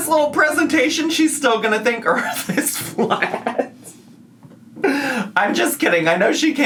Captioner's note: laughs